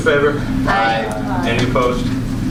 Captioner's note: A chorus of ayes